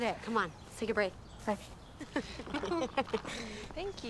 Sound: both laugh

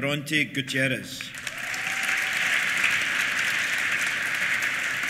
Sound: applause; cheers

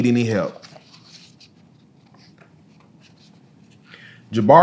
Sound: pages rustling

